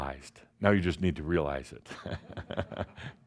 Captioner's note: chuckles